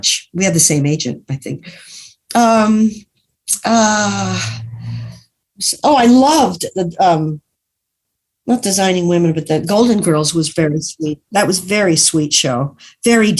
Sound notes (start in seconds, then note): none